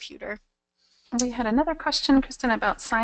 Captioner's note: voiceover